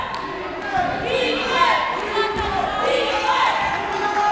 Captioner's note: cheering